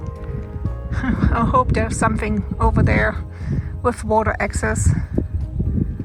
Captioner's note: laughs